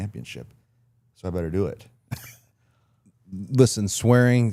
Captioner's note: laughs